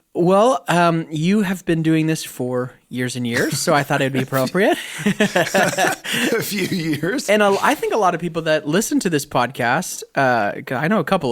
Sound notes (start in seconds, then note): 6.1 chuckle